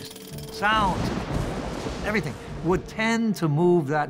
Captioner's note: thunder crashing